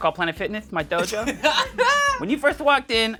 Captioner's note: laughs